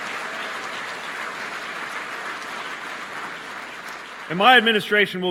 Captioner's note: applause